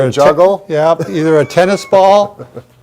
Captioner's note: laughing